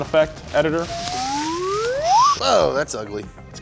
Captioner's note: whistling sound